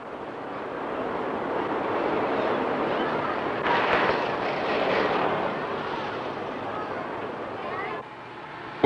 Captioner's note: bus noises